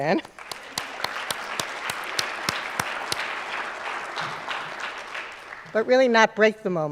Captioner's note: applause